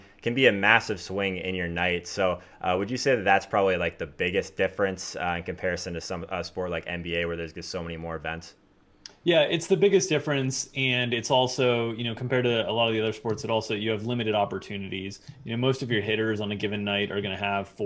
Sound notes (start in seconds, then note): none